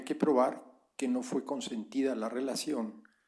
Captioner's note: spanish